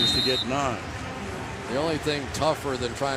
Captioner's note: pa announcement